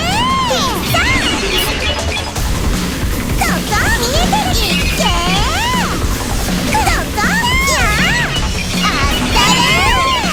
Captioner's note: crying